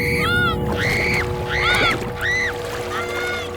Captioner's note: screaming